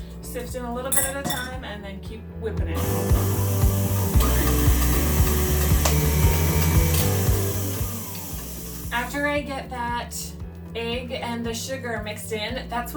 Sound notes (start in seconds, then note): 2.8 dough mixer whirring; 3.2 soft gentle music